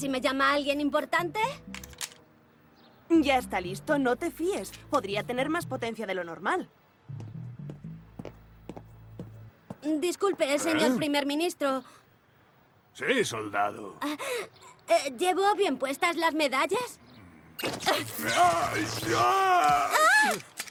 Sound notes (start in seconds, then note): 10.0 offscreen, using a fake voice; 17.9 pained yelps